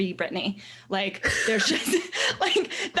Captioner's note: laughing